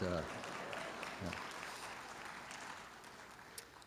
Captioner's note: applause